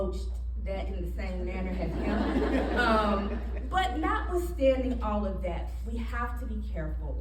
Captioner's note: audience laughing